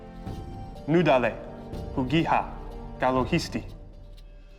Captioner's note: speaking Cherokee